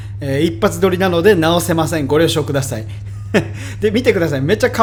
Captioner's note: haha